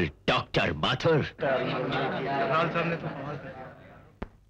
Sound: indistinct chatter

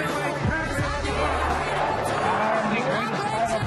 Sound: crowd

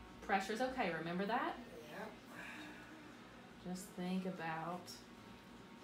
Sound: aah

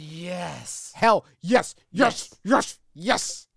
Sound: chanting

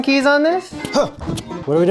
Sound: excited sound

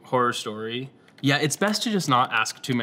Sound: keyboard tapping

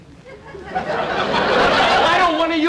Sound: audience Laughing

